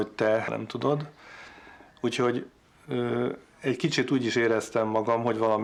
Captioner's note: speaking foreign language